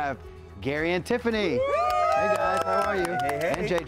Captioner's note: group cheers and applauds